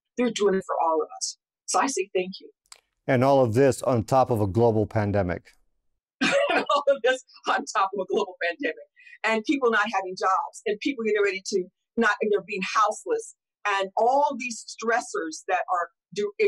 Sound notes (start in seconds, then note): 6.2 laughs